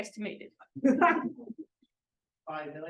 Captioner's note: laughter